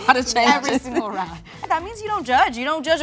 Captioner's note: laughs